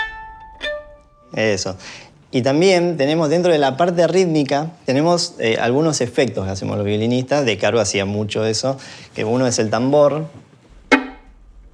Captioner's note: speaks Spanish